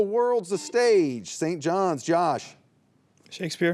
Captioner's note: buzzer beeps